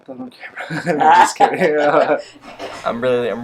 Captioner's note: laughter